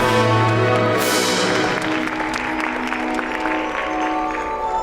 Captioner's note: audience applauds